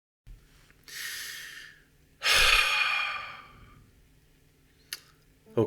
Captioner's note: sigh